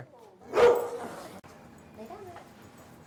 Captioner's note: dog barking